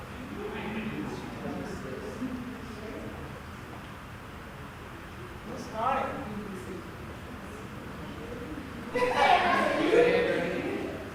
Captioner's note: chatter